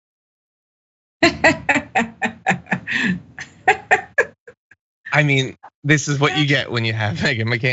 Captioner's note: laugh